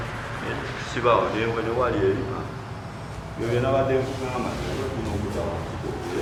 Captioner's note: people speaking foreign language